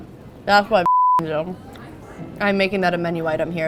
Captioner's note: beep